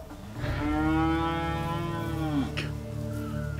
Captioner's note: cow moos